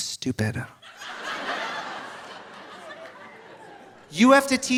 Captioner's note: audience laughing